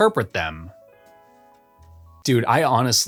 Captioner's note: beat